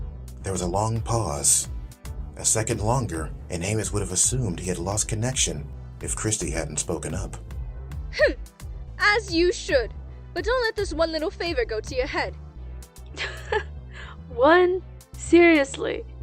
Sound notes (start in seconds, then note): 13.1 chuckling